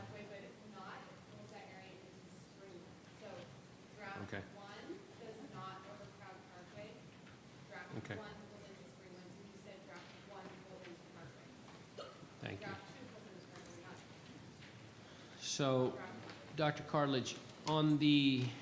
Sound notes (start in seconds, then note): 2.3 faintly speaking; 8.6 faintly speaking; 13.7 faintly speaking